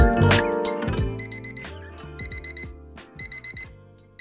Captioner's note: alarm chirping